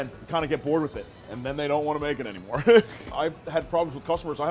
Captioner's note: laughs